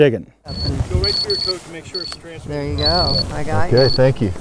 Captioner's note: beeping